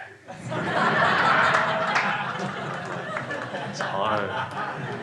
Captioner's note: crowd laughs